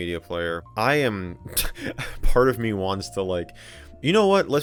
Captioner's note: laughs